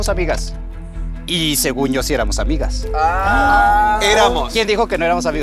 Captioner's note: collective gag